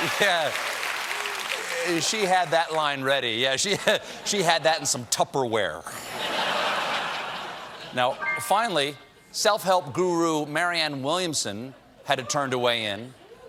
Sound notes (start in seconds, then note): 5.2 piano riff; 5.9 laughter